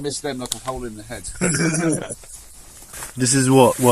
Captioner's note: laughter